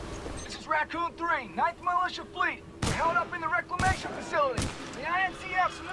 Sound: radio

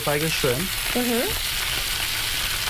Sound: sizzling

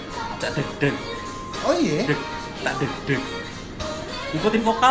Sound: continue imitating drum beats

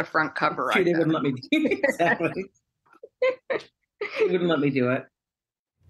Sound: laughter

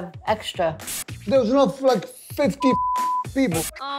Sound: beep

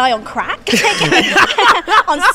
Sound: laugh

